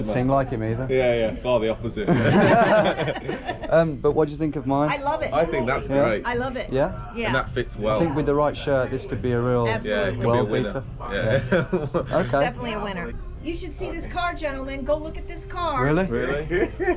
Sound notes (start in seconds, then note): 2.0 all laughing; 11.2 laughs